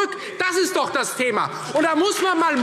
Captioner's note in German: Beifall Freie Demokraten